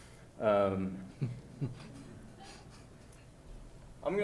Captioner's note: chuckling